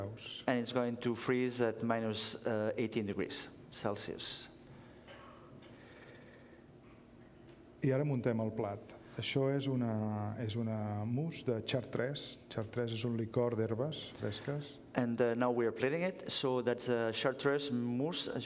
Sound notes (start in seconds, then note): 0.0 speaking catalan; 10.3 speaking catalan